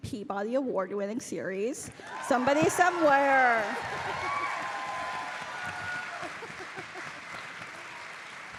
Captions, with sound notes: Peabody award-winning series, "Somebody Somewhere." [audience cheering]